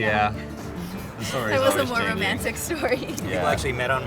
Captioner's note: laughs